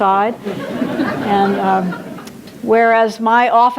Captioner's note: audience laughs